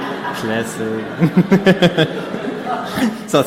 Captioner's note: audience laughing; laughing